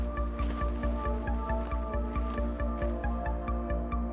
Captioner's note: bush rustles; tense music continues